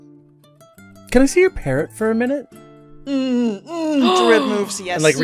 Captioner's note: Rover gasps